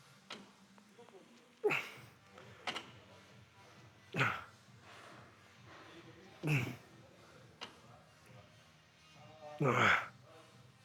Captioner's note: grunting